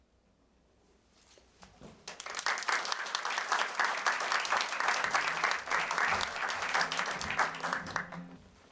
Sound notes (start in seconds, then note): 2.0 applause